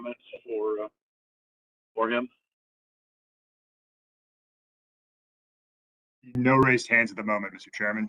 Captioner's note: A pause